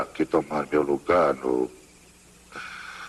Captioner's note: wheezing